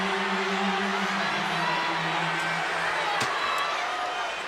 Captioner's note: crowd shouting